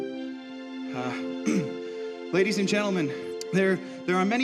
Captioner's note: clears throat